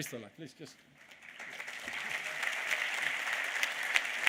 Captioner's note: applause